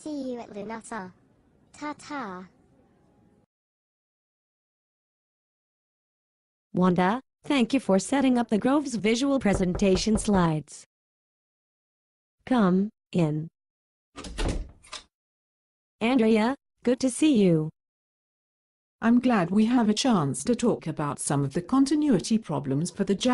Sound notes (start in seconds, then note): 12.2 knock; 14.1 door opens and closes